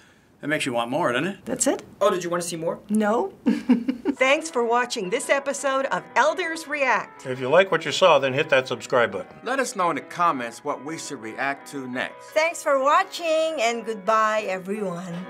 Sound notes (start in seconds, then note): 3.4 laughing